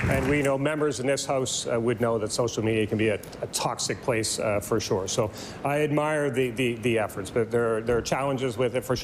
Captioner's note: applause